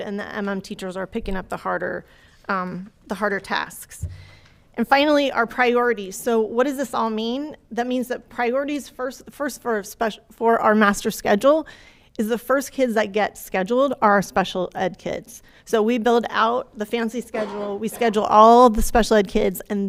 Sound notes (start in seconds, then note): none